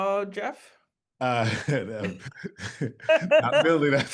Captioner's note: laughter